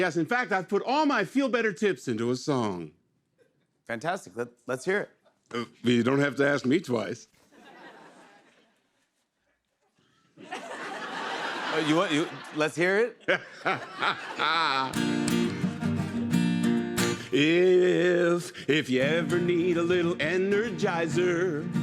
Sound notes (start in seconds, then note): 10.3 laughter; 13.1 laughing